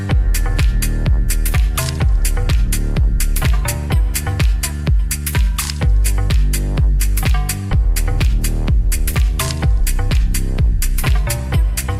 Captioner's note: applause